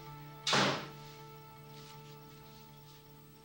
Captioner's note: door slams